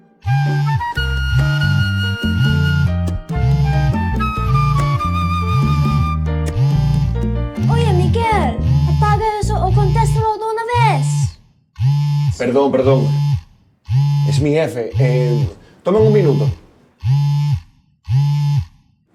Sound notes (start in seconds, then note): 0.2 phone Vibrating; 11.8 phone Vibrating; 17.0 phone Vibrating